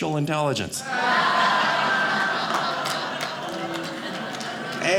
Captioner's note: audience laughing